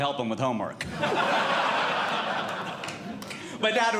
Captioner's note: audience Laughing